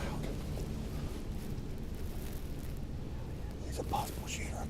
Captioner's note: rustling